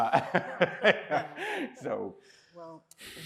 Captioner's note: laughs